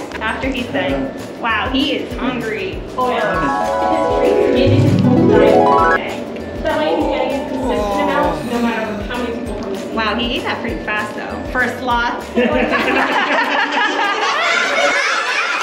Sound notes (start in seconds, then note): 3.4 harp sound effect; 12.4 lots of laughter